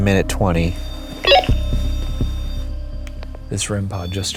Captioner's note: REM-Pod beeping